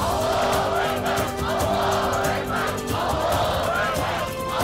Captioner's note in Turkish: Hep bir ağızdan